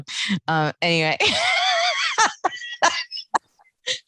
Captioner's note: laughing